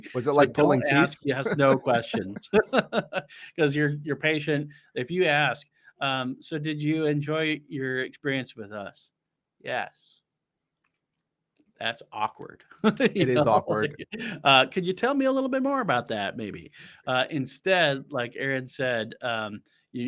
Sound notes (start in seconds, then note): 3.8 laughing; 12.8 chuckles